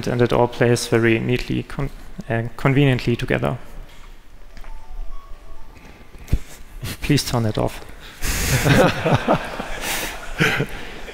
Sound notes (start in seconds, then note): 4.6 cell phone rings; 8.4 laughter